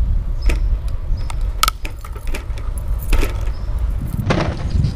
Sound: bike clanking

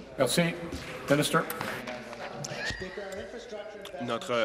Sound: speaking in French

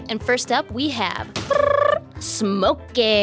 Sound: mimics drum rolling

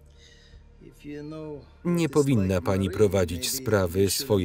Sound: none

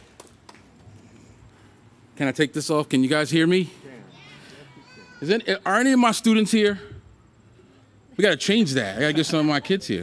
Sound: applause

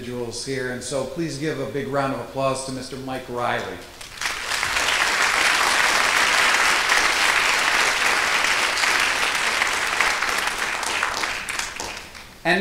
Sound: applause

